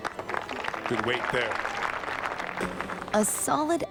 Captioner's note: crowd applauds